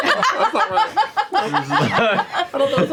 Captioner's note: laughter